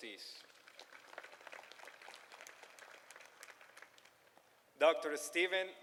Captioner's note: applause